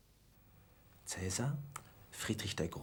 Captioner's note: whispering in german